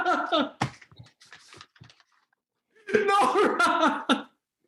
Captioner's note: Helmer laughs